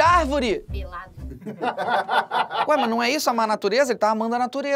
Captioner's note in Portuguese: risadas